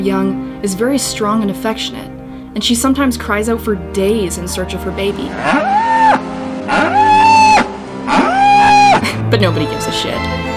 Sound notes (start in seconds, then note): 5.3 корова реве